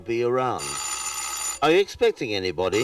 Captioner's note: doorbell rings